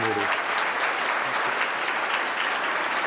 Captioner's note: applause